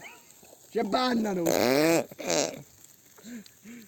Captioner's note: fart-like laughter